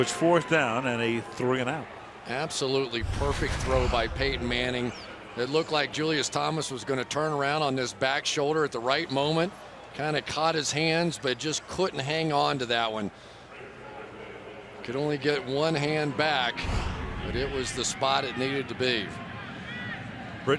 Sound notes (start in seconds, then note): 14.1 pa announcement